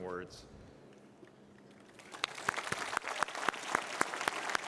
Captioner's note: applause